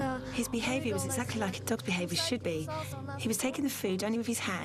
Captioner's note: speaking in a foreign language